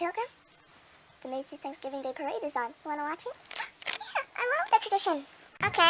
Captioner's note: gasps